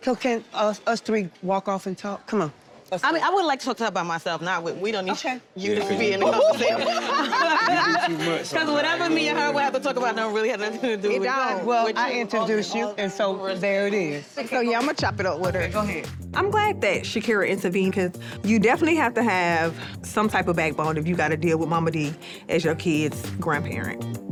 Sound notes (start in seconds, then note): 6.0 people laughing